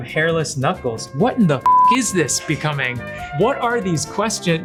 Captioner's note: beep